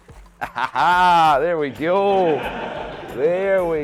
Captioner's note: laughter